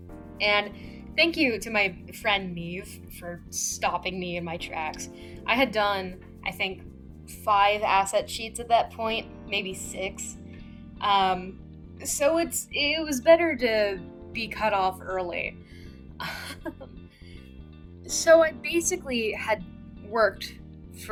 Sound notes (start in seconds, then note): 15.9 laughs